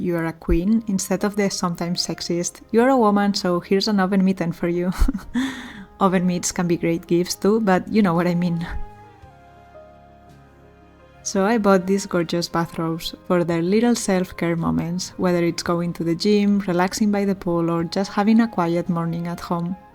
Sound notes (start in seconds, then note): 4.9 laughter and gasps